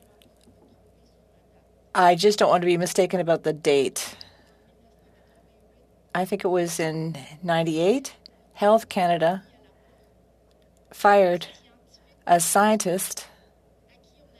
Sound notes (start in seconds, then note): 6.9 speaking French